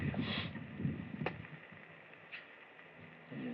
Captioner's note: smooches